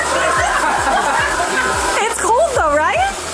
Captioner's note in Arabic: الكل يضحك